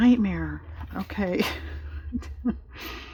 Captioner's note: laughs